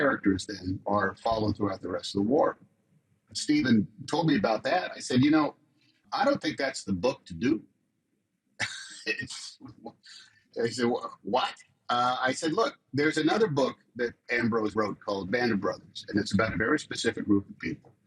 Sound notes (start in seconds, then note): 8.6 tom laughs